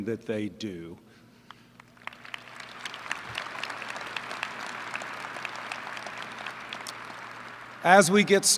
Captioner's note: applause